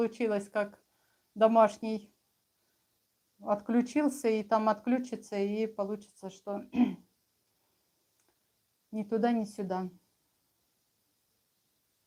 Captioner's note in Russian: откашливается